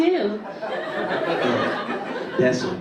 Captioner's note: audience laughing